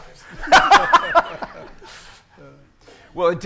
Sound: audience laughing

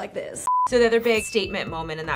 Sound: beeping

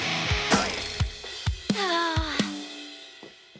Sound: sighing

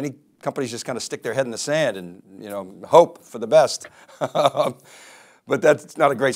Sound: laughs

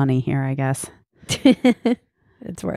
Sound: laughs loudly

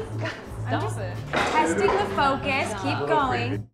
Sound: epic foosball slam

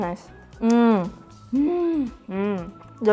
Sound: mmmm; mmmmm

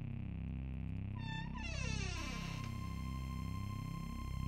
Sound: door creaking; ominous music

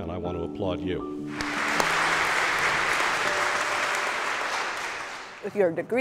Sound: applause

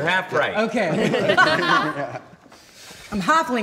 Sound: laughter

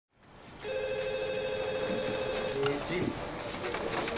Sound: telephone ringing

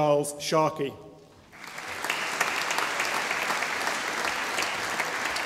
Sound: audience applauding

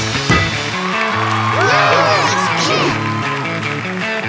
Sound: cheering

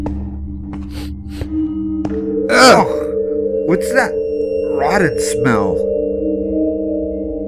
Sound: sniffs

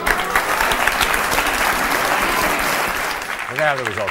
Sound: audience applauding

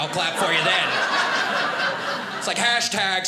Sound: audience laughing

